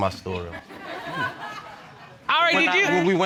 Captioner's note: audience laughing